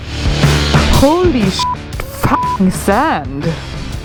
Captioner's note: upbeat rock music; beep